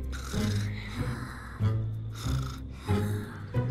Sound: snores

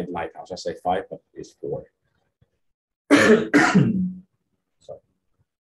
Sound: clearing throat

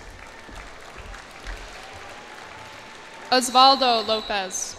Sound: cheers and applause

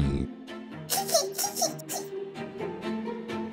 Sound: giggle

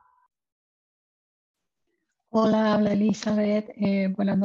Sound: speaking in spanish

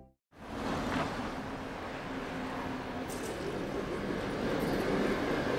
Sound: city street noise

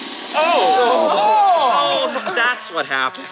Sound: oohs and ahs

